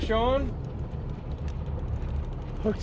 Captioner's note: boat engine idling